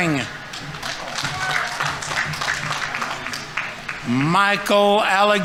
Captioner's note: audience applauding